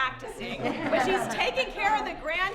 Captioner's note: laughter